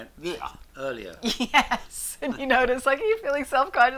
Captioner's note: laughs